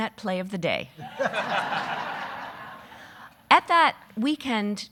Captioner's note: audience laughing